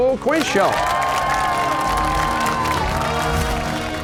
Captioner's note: cheers and applause